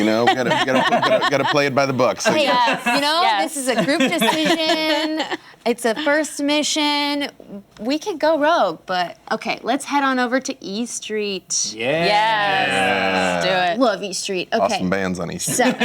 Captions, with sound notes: - You know, gotta play it by the book. - You know, this is a group decision, it's a first mission, we could go rogue, but okay, let's head on over to E. Street. (cheering) - Love E. Street. - Awesome bands on E. Street.